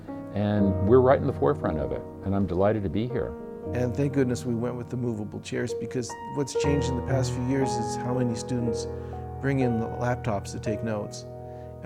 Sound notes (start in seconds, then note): 3.6 voiceover